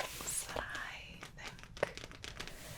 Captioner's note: tapping